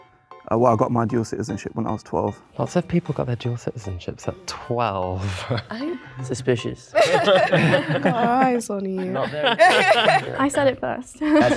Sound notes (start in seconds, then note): 6.9 laughing